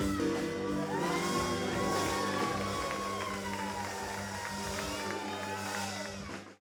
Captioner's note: upbeat music; audience cheering; upbeat music